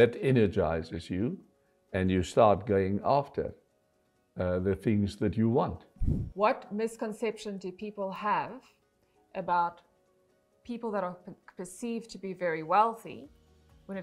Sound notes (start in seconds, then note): 6.0 air whooshing